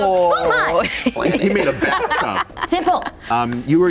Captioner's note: laughing